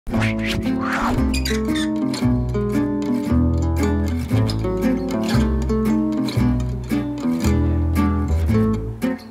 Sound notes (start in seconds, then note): 0.1 metal screeching; 2.8 instrumental music